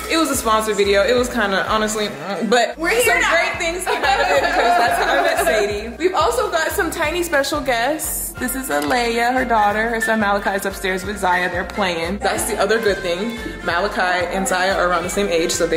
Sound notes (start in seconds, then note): 2.0 grunting; 3.0 laughing